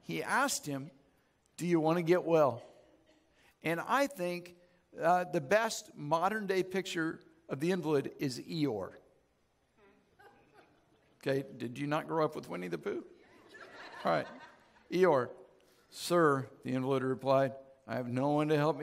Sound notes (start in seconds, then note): 13.2 audience laughs